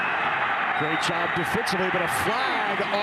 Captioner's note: referee blows whistle